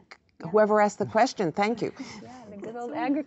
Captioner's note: laughs